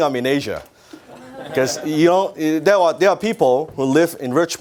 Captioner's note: audience laughs